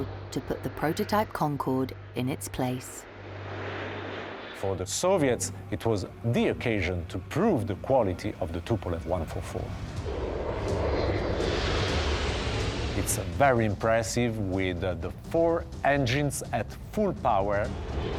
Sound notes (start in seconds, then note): 9.9 jet engine roaring